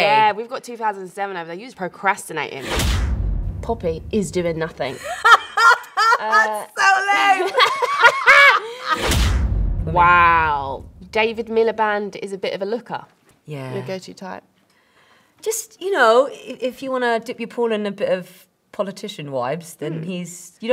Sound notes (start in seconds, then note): 4.9 laughs